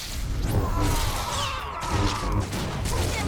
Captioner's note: gunshots